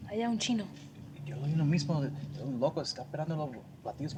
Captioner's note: speaking spanish